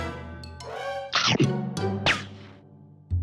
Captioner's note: chomp